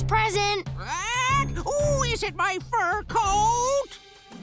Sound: squawking

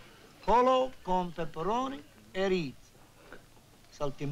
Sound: speaking italian

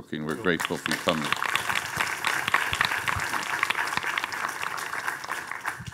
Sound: audience applauding

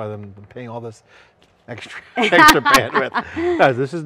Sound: laughs

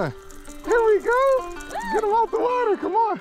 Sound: girlfriend yelps

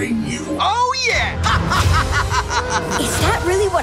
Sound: laughing

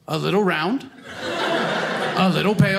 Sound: audience laughing

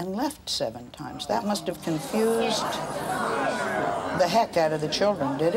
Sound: audience clamors

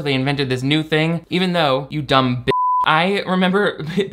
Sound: beep

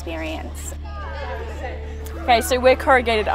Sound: background chatter

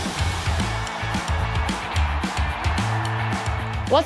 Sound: crowd cheering; upbeat music

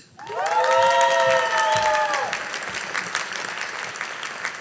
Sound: audience applauding

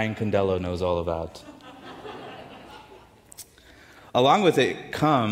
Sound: audience chuckles

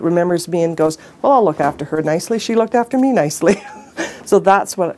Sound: laughs

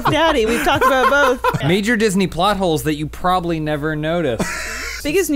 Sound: wheeze

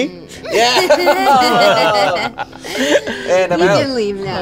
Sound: all laugh

